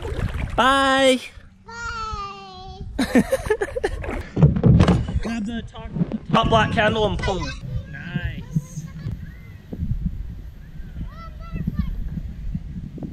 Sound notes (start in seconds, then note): 3.0 laughs